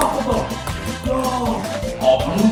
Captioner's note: endless ping pong bouncing